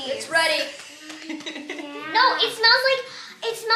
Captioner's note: laughs